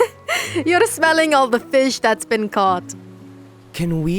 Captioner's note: laughs